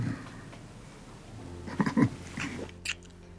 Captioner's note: chuckles